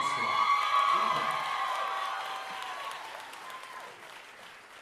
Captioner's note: audience cheering